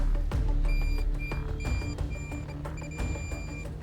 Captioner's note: beeping